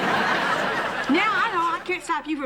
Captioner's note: laughter